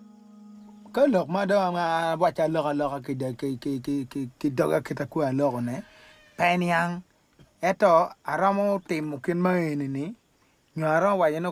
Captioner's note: foreign Language